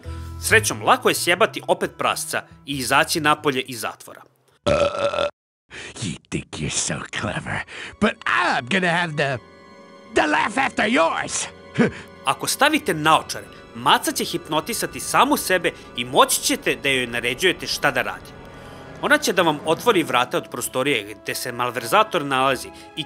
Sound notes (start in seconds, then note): 4.6 burps